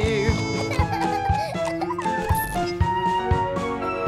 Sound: laughs

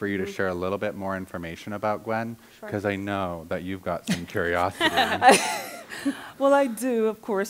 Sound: laughter

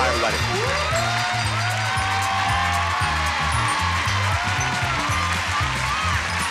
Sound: audience applauding; upbeat music

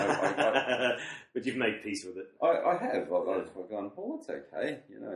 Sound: laughs

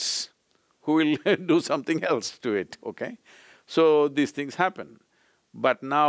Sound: laughs

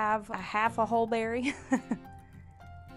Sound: laughs

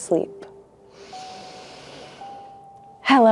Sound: inhales deeply

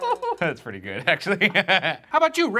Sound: laughing

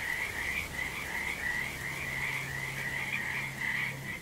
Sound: frogs singing

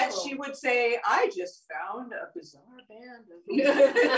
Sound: laughter

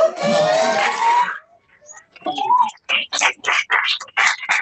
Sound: applause

